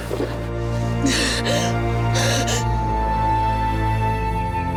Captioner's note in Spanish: Sollozos